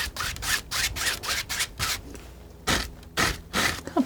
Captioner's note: scratching